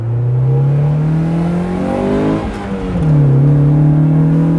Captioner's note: engine revving